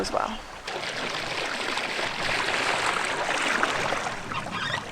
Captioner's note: water bubbling